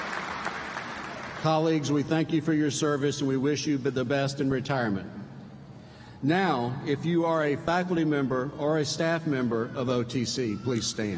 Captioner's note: applause